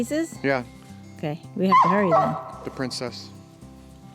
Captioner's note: Labrador yips